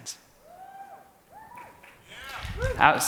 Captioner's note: cheering